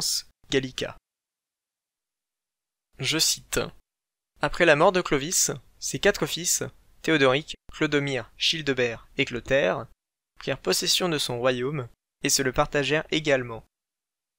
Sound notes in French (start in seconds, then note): none